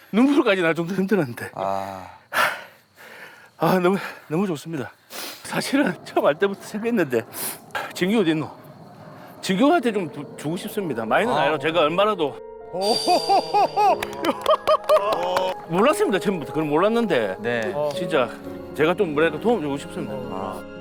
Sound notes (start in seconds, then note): 13.9 everyone applauds his generosity